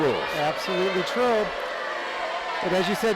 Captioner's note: crowd cheering